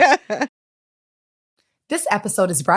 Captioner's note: laughter